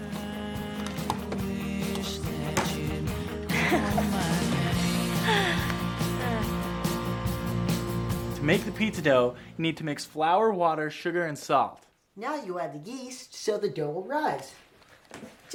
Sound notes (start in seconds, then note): 0.2 bright upbeat music; 3.5 Caitlin giggles